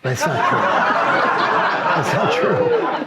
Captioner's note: audience laughs